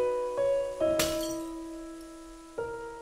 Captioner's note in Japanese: 何かが割れる音